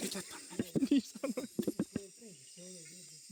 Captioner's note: laughs